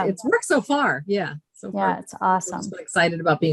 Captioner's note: indistinct conversation